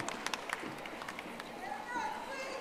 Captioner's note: audience applauding